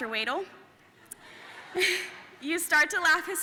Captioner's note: audience laughing